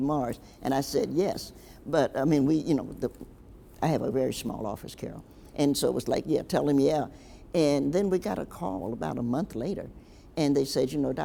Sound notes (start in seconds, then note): none